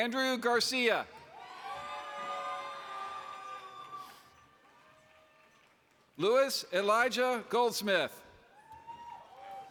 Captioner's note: applause